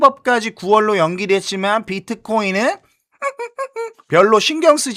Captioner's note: laugh